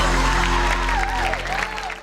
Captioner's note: audience cheering